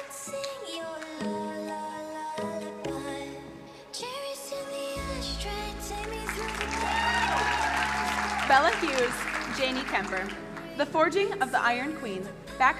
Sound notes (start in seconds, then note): 5.8 crowd cheering and applauding